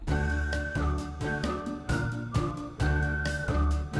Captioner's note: whistling